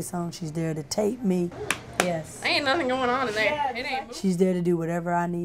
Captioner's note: smacking